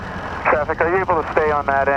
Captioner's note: Traffic